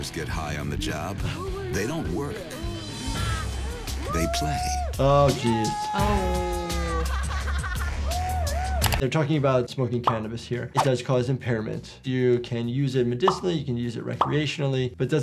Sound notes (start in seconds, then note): 5.4 worker cheers; 6.4 worker laughs